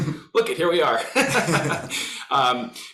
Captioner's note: all laughing